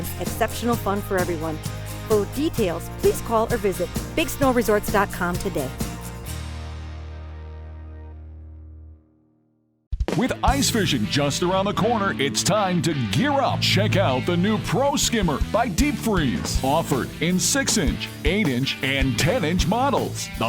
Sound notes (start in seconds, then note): 6.2 upbeat music; 10.3 voiceover